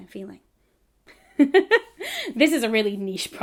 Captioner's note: laughs